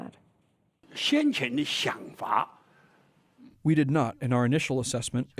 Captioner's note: through translator